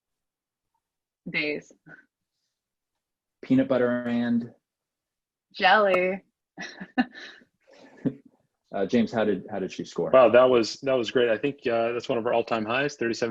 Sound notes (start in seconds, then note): 6.6 chuckles; 6.6 laughs